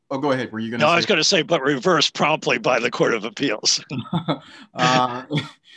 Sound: laughs

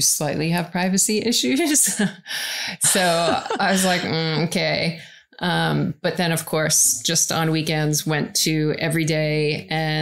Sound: laughs

